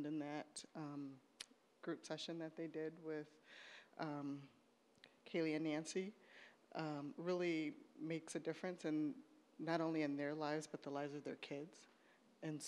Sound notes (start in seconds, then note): none